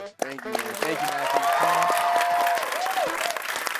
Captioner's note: everyone applauding